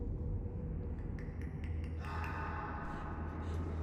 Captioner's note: tongue clicking